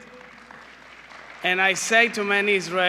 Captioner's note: applause